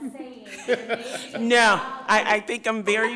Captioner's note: people laughing